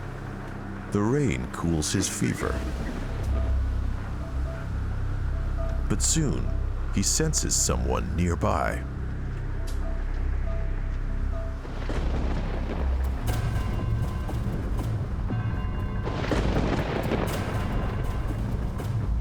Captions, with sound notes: The rain cools his fever. But soon he senses someone nearby. (thunder booming) (thunder booming)